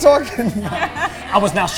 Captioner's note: both laughing